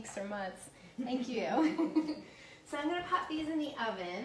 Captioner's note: laughs